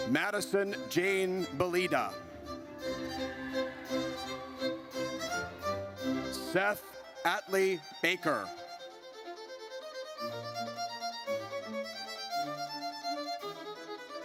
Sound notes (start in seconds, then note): 3.0 audience cheers; 9.0 triumphant music